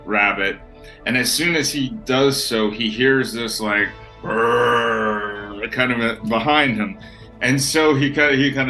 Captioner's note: roar